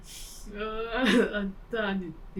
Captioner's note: laughing